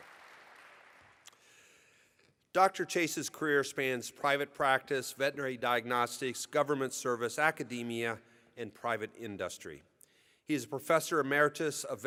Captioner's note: applause